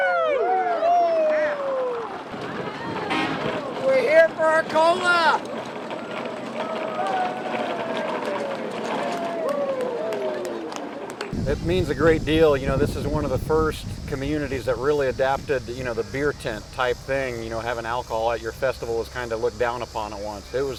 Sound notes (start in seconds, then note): 1.7 applause; 7.3 wheels turning